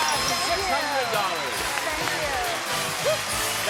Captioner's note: applause